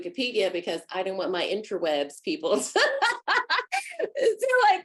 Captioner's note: laughs